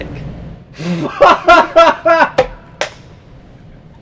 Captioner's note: laughs